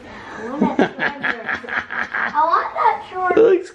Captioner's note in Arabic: أبي يضحك